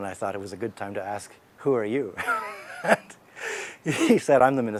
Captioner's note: laughs